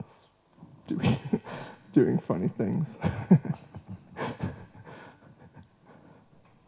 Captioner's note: laughs